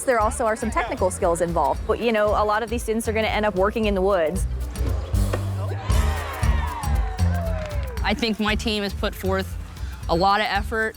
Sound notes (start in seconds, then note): 5.5 cheering